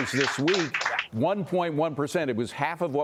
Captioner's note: cheers and applause